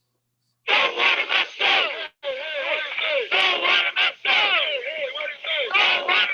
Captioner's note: chanting